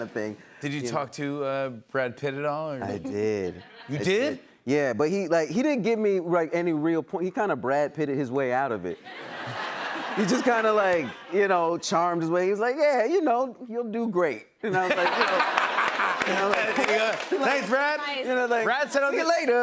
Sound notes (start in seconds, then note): 14.7 laughter